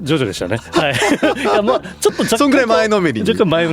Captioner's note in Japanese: 笑い